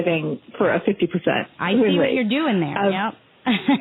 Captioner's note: laughter